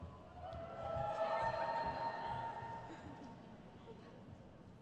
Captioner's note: audience cheers